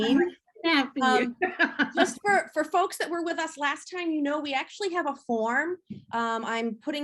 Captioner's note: laugh